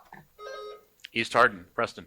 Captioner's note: buzzer buzzing